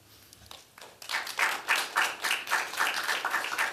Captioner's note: applause